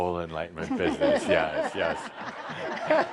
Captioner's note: laughter